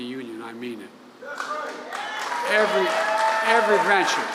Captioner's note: applause